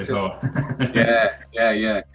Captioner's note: laughs